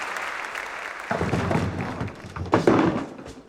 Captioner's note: applause continues; rattling